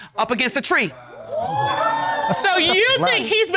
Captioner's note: audience exclaims